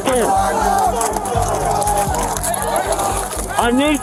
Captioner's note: shouting